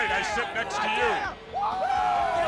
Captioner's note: crowd chatter